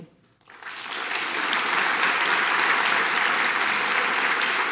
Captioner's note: audience applauding